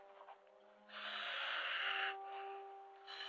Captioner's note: loud breathing